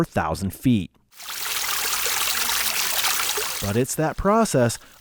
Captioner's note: water babbling